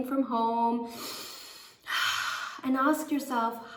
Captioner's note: exhales